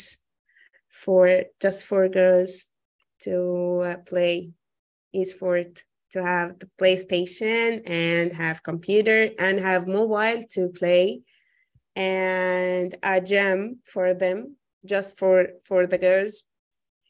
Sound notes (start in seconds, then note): none